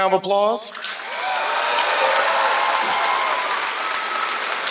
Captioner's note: applause